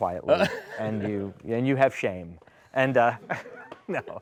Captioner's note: laughter; laughing